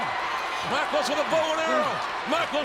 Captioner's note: audience cheering